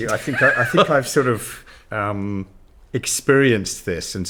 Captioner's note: chuckles